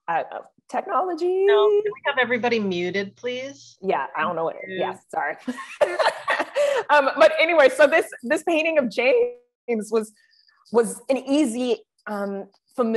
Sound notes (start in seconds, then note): 5.6 laughs